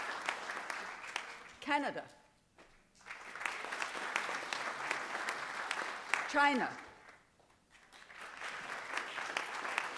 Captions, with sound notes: Canada. [APPLAUSE] China. [APPLAUSE]